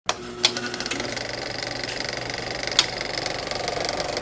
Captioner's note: film reel winding